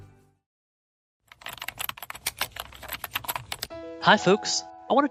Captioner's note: typing